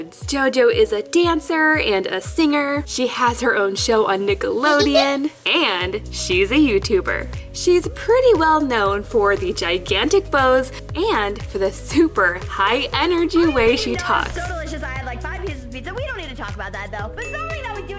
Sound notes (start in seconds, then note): 4.6 giggles